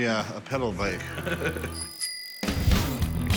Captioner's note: bell rings